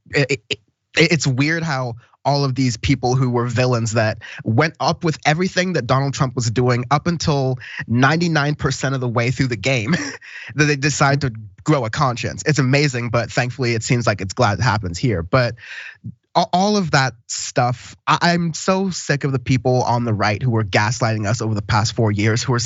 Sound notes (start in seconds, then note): 9.7 laugh